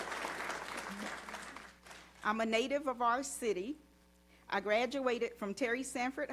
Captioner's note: applause